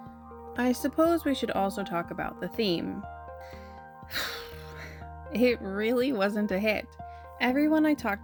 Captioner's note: sigh